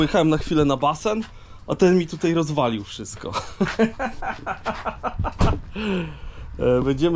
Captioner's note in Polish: śmiech